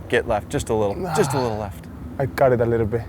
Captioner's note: groans